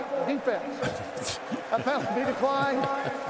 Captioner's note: laughing